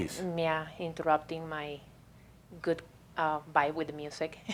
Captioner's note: she chuckles